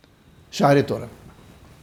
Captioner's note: Hebrew